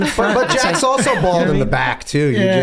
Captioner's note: Charlie laughs